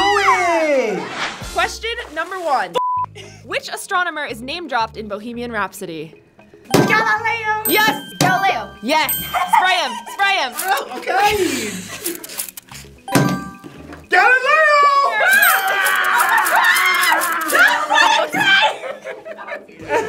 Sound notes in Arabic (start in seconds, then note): 2.8 صافرة; 13.0 قرعات الجرس